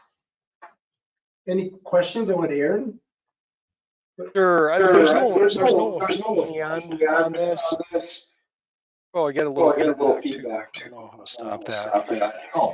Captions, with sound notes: Any questions on what Aaron? Sure, there's no, looking on this (audio distorting). Oh, I got a little feedback. I don't know how to stop that.